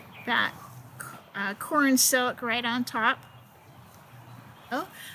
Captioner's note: none